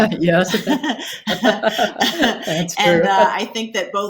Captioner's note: both laughing